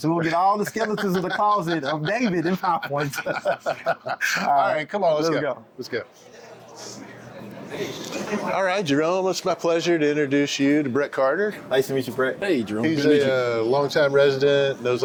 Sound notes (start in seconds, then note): 2.6 both laughing